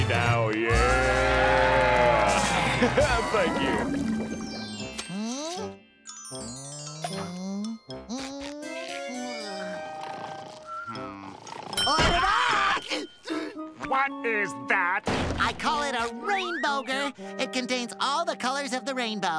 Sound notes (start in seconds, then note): 9.4 snoring; 12.8 gasping